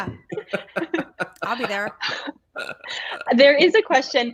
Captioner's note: laughing